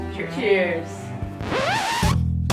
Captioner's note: funk Music; record scratch